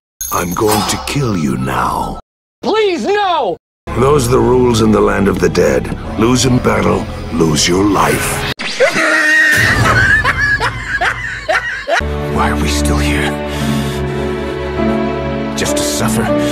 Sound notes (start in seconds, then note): 8.6 teleportation sound followed by a horse-laugh; 9.5 sad music